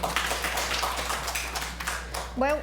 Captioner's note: applause